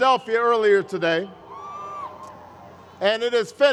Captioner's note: crowd cheers